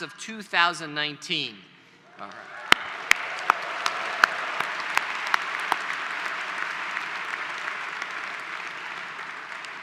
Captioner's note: applause